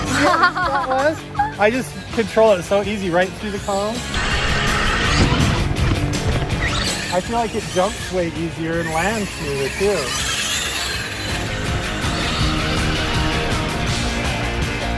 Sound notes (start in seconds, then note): 0.0 laughing; 4.1 tires whirring; 4.1 upbeat music; 9.9 tires whirring; 11.5 upbeat music